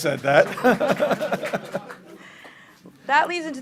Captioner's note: clapping